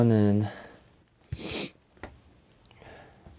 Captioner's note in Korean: 훌쩍